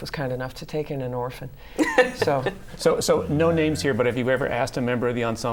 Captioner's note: laughter